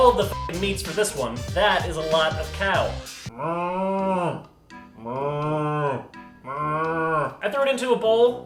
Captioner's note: moos